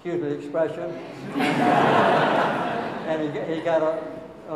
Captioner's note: audience laughing